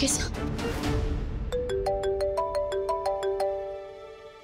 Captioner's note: phone ringing